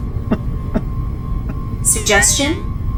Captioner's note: Hawk laughs